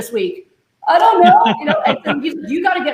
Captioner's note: laughing